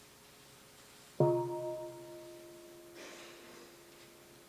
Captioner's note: half bell